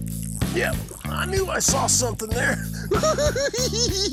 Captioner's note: giggles